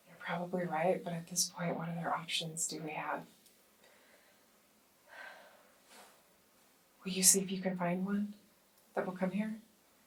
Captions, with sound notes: - You're probably right, but at this point, what other options do we have? [Hannah sighs] Will you see if you can find one that will come here?